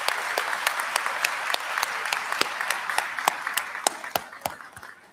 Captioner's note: applause